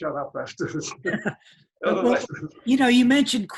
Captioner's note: guys laughing